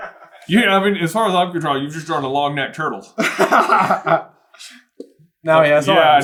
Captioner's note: laughter